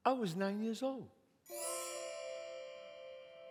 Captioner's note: chime sounds